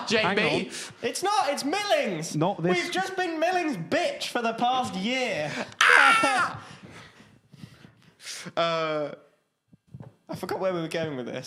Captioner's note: screams